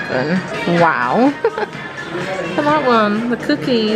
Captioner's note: laughs